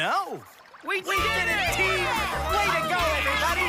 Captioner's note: all cheer